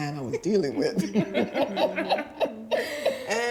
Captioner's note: laughing